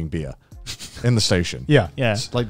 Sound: laughing

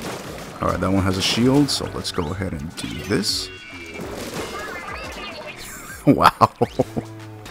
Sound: laughs

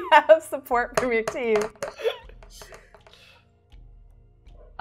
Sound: dice thudding

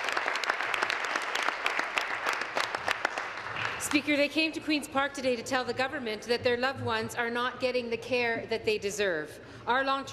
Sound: applause

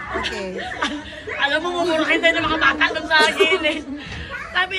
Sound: Melai laughs

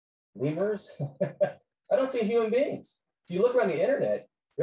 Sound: laughs

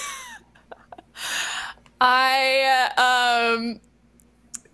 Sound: laughing

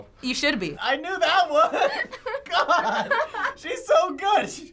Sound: laughing

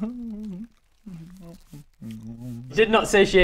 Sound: happy chewing noises

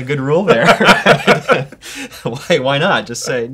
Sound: laughter

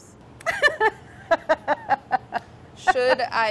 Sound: laughing

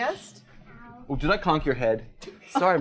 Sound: voiceover

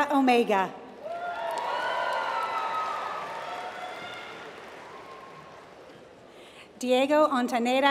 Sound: applause

